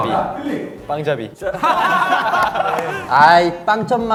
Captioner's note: laughing